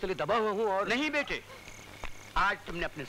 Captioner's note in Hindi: none